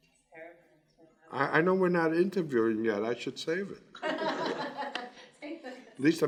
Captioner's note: laughs